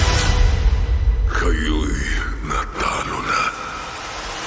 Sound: music fades; sinister voice

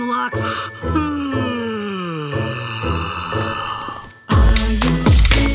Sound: Barks-A-Locks yawns

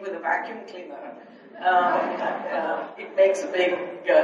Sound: audience laughs

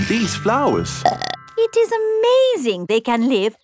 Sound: burps

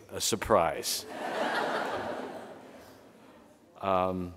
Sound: audience laughing

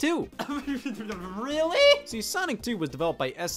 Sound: stuttering

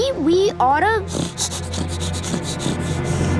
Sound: sniffing

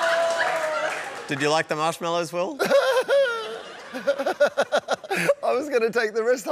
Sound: laughs

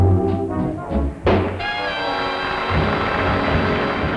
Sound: audience applauds

